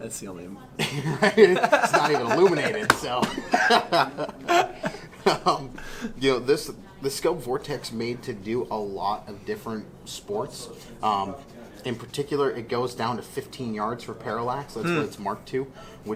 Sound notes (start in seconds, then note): 0.8 laughs; 0.8 laughing